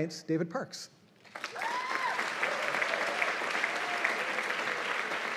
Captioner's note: cheers and applause